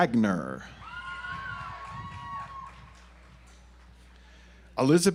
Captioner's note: audience applauds